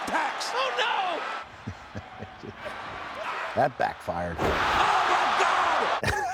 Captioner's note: laugh; laugh